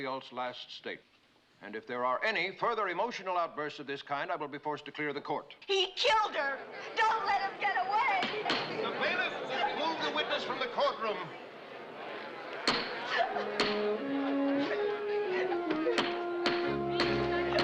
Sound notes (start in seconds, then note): 13.0 sobbing